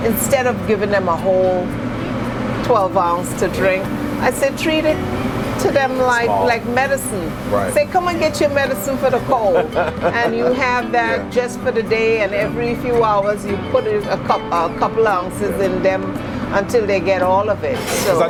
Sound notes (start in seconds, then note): 9.2 laughs